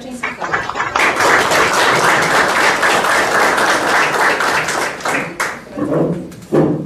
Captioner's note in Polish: oklaski